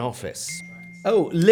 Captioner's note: phone rings